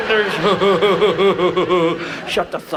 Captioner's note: Ted E laughs